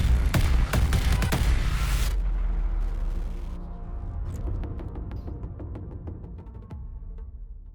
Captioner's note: gunfire